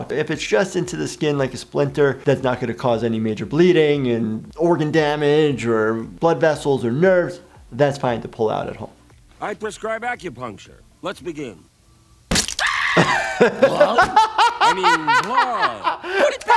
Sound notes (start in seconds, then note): 12.3 blood squelching; 12.6 Fry screaming; 12.8 laughing